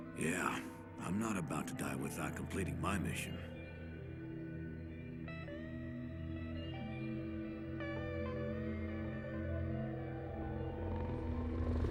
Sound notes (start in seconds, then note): 3.7 helicopters hovering